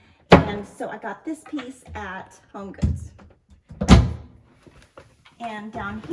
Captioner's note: cardboard door closes